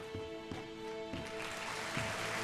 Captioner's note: audience applauding